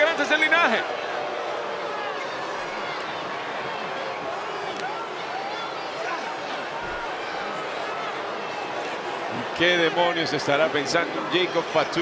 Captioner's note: applause